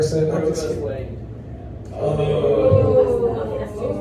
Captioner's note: audience groans